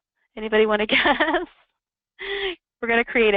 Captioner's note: laughing